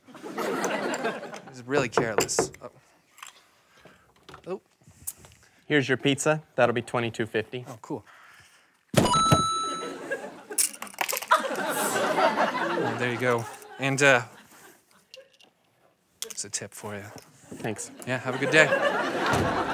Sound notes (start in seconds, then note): 0.0 laughter; 1.9 knocks; 9.0 dinging; 19.5 laughter